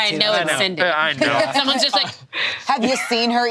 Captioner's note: laughs